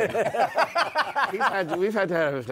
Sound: laughter

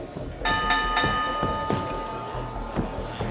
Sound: bell ring

